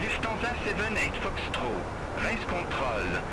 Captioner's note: radio chatter